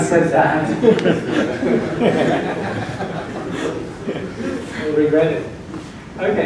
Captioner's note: laughing